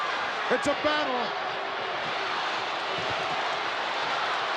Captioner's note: crowd yelling